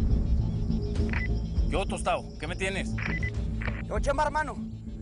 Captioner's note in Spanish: Bip